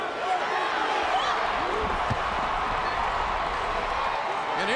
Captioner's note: audience cheering